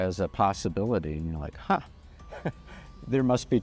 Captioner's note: chuckles